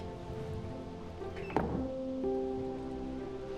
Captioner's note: door closes